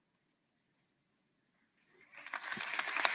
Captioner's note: applause